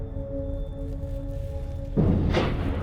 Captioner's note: thump whoosh